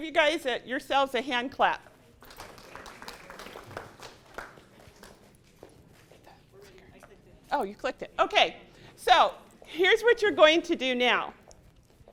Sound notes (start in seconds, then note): 2.2 applause